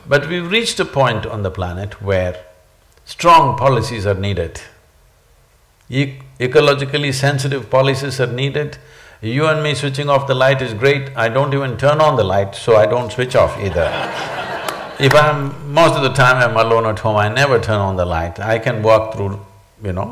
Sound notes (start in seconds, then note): 13.6 laughter